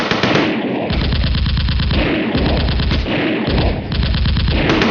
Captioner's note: gunfire rattling